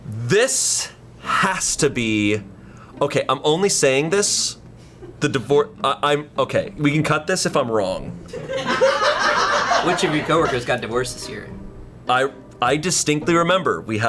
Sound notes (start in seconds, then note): 8.3 colleagues laughing